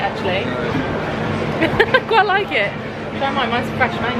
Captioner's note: laughing